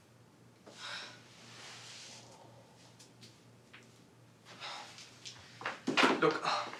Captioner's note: scoffs